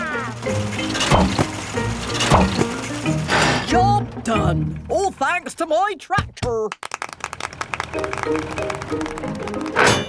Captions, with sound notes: - Job done! All thanks to my tractor. (clapping)